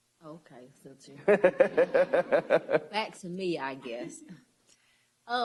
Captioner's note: laughter